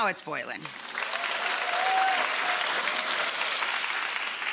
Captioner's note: applause